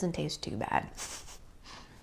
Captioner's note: laughs